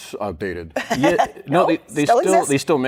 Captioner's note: laughs